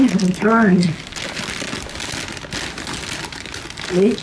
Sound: paper crinkling

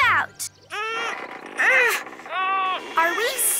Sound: all grunting

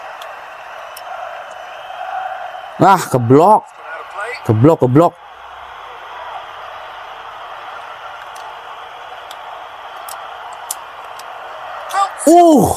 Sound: applause

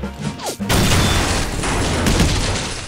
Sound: explosion

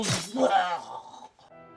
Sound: makes dying noises; groans

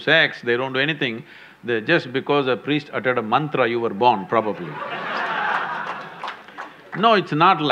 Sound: laughter

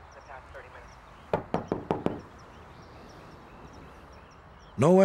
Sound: knocking

